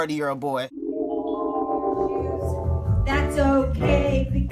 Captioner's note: eerie sound effect